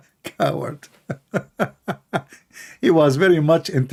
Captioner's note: Ketawa